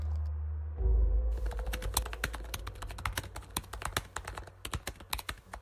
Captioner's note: keyboard clacking